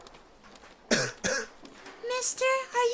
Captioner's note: cough